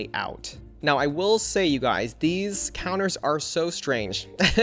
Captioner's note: laughs